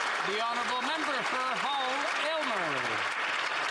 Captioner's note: some Applause